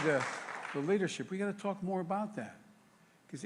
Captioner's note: applause